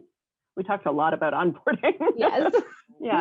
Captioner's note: laughs